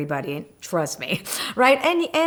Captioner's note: laughs